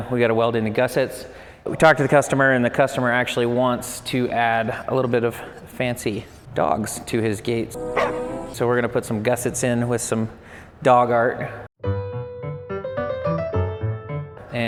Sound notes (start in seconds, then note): 7.8 dog barks; 11.8 gentle playful music